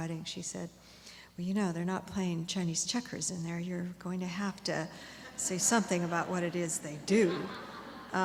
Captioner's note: laughter